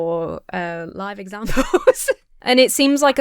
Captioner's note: laughs